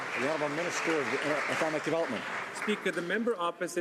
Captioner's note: some Applause